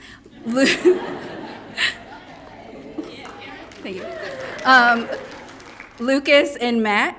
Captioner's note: laughs